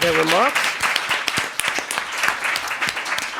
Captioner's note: applause